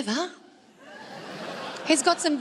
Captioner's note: crowd laughs